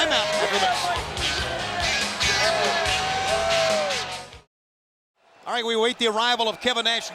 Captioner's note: applause